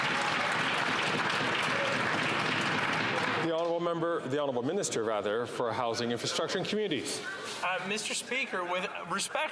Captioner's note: some Applause